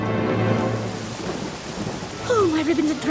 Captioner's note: rainfall